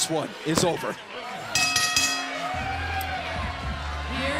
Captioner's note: bell ringing